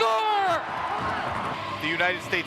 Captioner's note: crowd cheers